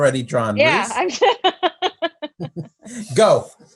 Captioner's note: laughs